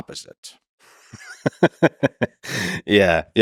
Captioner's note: Lex laughs